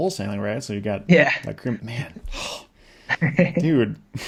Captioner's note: laughs